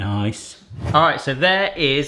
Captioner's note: air whooshing